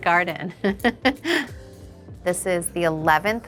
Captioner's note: Kim chuckles